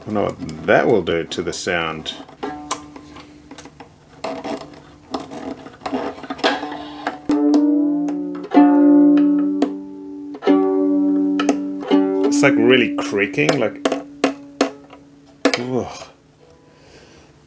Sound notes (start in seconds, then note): 8.6 violin tuning; 13.1 wood creaking